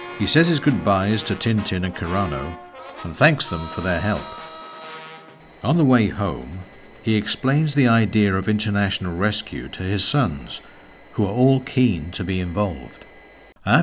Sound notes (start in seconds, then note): 6.4 jet whirring